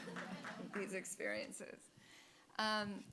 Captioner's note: audience applauding